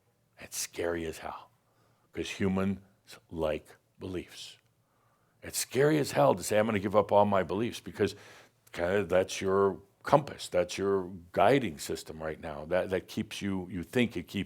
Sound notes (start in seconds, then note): none